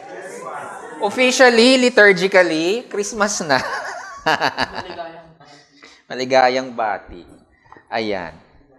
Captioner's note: laughs